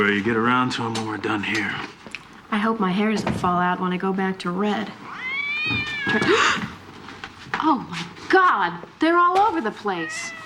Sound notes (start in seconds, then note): 4.8 gasps; 5.0 cat meowing